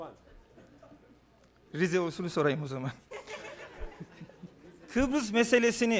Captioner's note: non-english speech